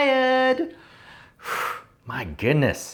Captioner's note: sharp exhale